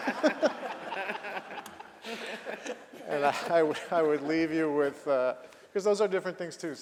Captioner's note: laughter